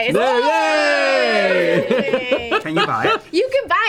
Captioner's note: all cheer